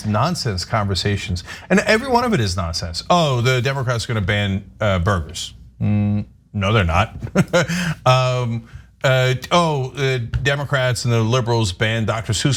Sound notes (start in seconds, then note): 7.1 laugh